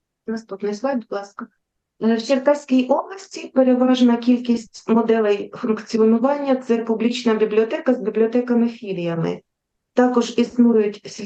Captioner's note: foreign Language